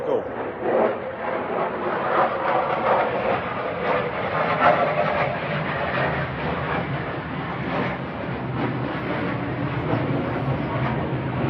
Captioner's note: The sound of F-16s